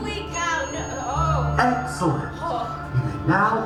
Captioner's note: ding